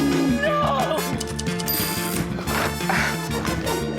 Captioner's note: typewriter dinging